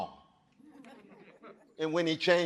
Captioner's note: audience chuckling